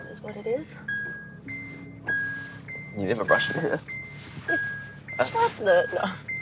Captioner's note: reversing alarm beeps; chuckles